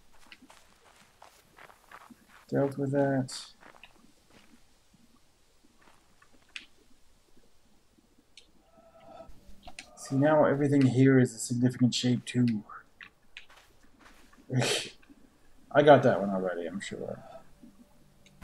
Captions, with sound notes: dealt with that? See, now everything here is a significant shape, too. [laughs] I got that one already, I'm sure.